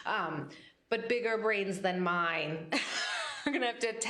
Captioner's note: laughs